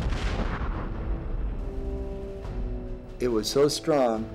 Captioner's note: explosion